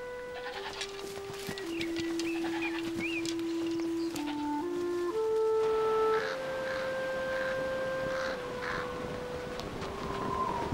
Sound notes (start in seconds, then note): 0.2 calm music; 6.0 birds crowing